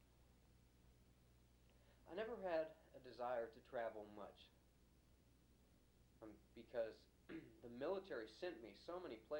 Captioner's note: clears throat